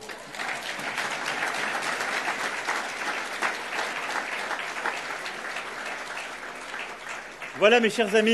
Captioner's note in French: Applaudissements